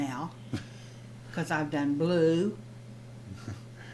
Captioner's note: Jerold chuckles